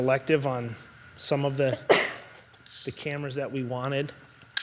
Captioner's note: participant sneezes